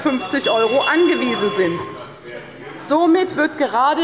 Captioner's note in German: Unruhe – Glockenzeichen des Präsidenten